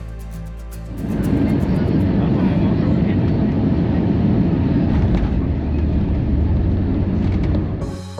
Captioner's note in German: Flugzeuggeräusche